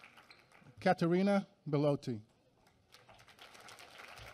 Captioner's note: applause